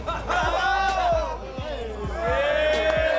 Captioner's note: cheering